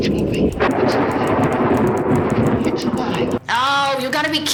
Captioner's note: thunder crashes